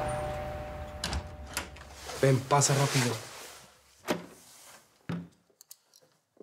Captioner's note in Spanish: Timbre de la puerta